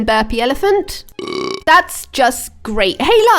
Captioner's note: burping